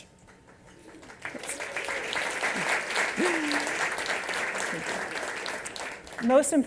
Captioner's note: applause